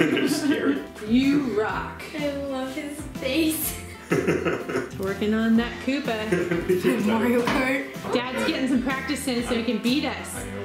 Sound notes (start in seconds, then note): 0.0 laughs; 4.0 laughs